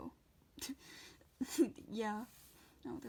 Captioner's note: laughing